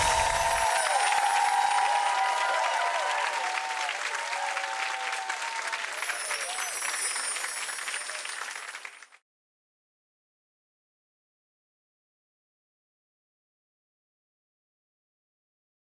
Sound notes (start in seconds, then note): 0.0 chiming; 5.9 chiming